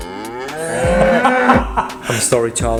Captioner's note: laughing